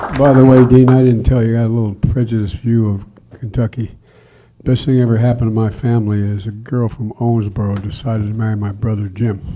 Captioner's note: applause